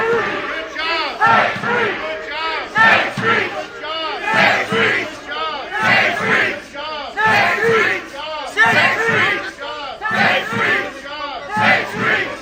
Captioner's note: cheers and applause; chanting